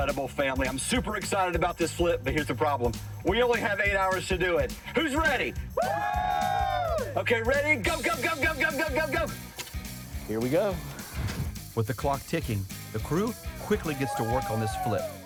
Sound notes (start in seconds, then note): 5.7 crew cheers